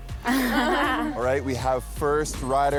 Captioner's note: all laugh